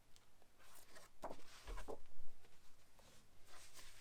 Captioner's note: paper rustling